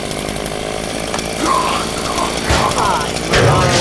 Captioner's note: Quaid gagging